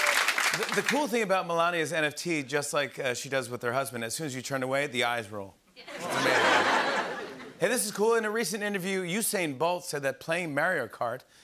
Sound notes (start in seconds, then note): 5.8 laughter